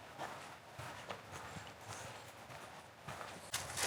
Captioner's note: wind whistling